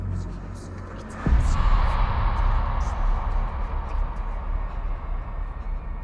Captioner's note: William speaking in tongues; tense music